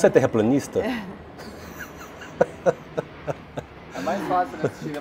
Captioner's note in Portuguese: risos